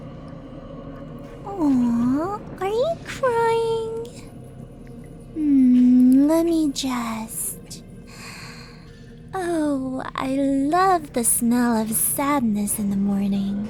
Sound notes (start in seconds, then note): 8.0 deep breath